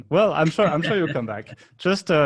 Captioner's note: laughing